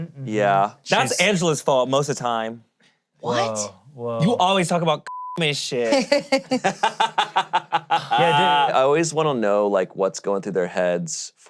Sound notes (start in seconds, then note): 5.9 laughing